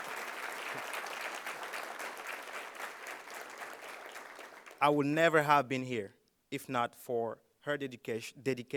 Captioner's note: applause